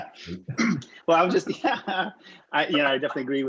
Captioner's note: laughs